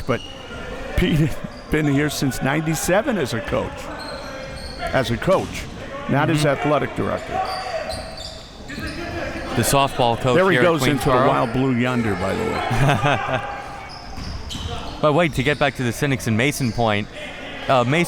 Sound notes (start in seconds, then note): 8.4 audience chattering and yelling; 12.6 chuckles